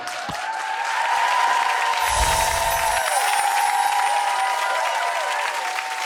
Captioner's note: audience cheering; audience clapping